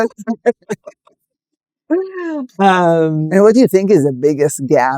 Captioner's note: laughing